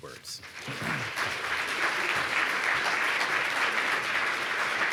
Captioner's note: audience applauds